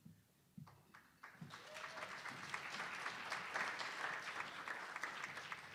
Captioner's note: attendees applauding